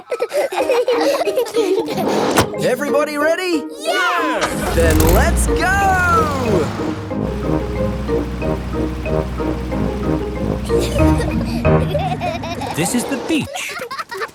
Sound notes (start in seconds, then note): 0.0 all laughing; 10.6 children giggling